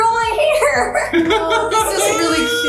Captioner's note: laughing